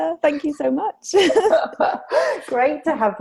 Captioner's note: laughter